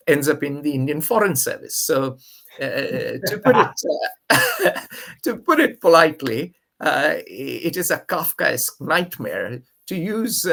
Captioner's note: laughs